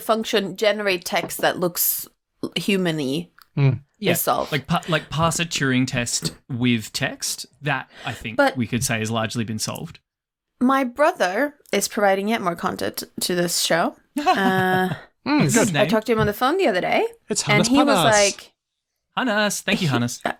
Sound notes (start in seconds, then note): 14.2 chuckles